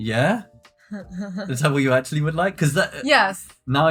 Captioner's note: laughing